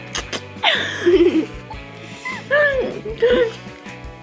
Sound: girls giggle

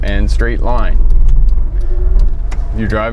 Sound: ticking sound

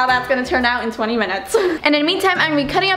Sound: chuckles

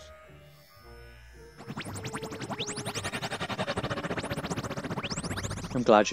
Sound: Tardis makes a happy noise

